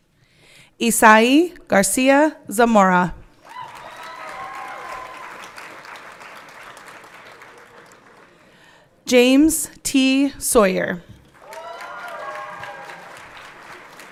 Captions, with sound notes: Isai Garcia Zamora. (everyone clapping) James T. Sawyer. (everyone clapping)